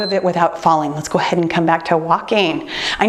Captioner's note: timer beeps